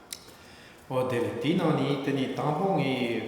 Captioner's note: speaking tibetan